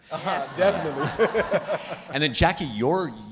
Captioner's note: all laughing